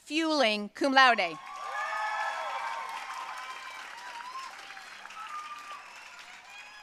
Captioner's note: audience cheering and applauding